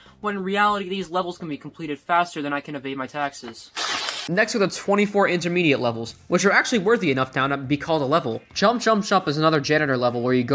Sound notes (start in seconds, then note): 3.7 ripping